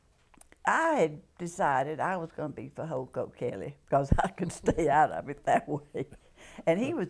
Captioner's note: laughter